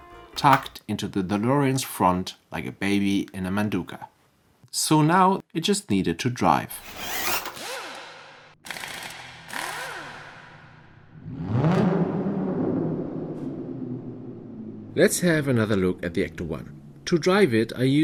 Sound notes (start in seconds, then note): 8.6 pneumatic ratchet; 11.2 sports car engine